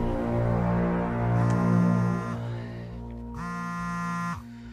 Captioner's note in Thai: เสียงโทรศัพท์